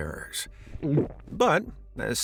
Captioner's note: gulp